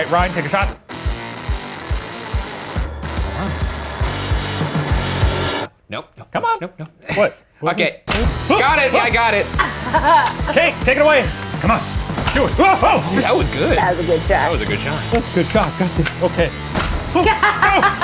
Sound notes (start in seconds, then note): 0.0 upbeat rock music; 3.5 tense music; 9.5 laughs; 12.7 gasping; 17.1 laughs